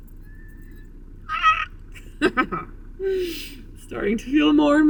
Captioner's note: speaker squeals; speaker laughs